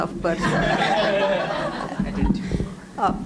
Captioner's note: audience laughing